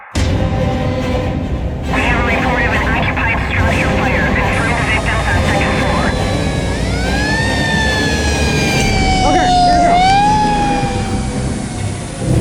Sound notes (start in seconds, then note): 0.1 tense music; 6.2 siren wailing